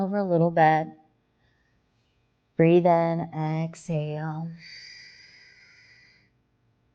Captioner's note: exhaling